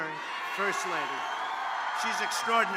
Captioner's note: applause